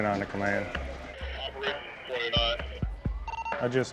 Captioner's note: man, over radio